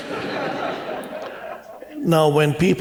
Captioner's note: laughter